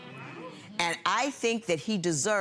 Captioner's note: audience murmuring in agreement